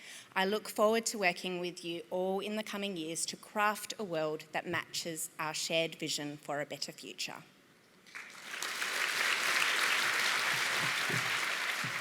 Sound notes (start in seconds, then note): 8.0 applause